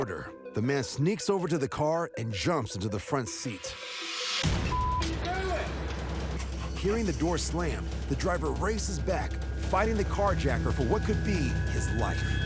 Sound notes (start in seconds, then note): 5.1 engine starts